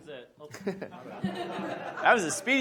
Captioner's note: audience laughs